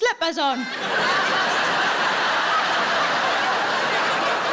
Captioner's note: audience laughing